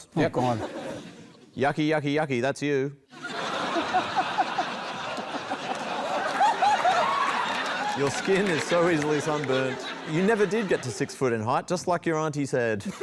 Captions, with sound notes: Yeah. Oh, God. "Yucky, yucky, yucky. That's you." [LAUGHTER] "Your skin is so easily sunburnt. "You never did get to six foot in height, "just like your aunty said."